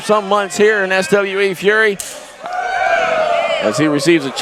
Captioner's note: crowd cheering